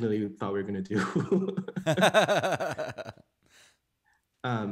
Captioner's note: laughing